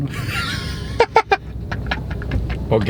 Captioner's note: laughs